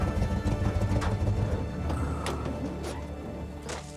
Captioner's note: engine turns off